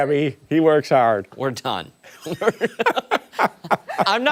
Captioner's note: laughter